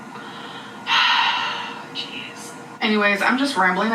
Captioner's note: sighs